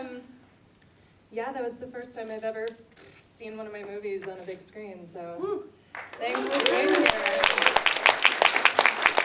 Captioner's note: applause interrupts